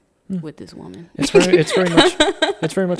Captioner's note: laughing